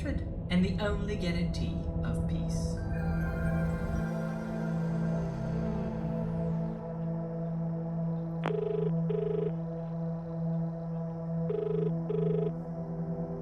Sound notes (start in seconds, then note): 3.4 shutdown tune; 8.4 dial tone; 11.5 dial tone continues